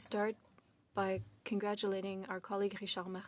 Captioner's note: speaking in French